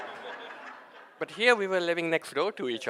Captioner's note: audience laughing